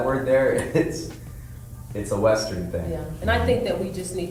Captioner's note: chuckles